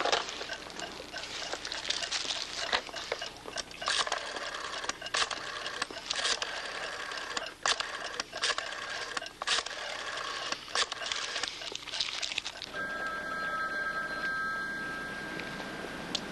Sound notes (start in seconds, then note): 0.0 clock ticking; 4.2 dialing; 12.6 phone rings